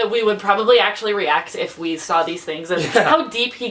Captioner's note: laughs